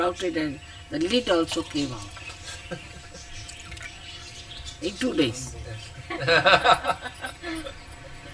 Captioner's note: laughter